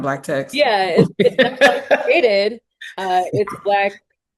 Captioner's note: laughs